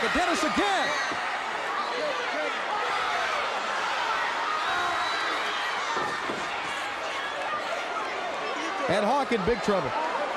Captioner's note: crowd cheering